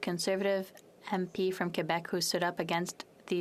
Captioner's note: speaking French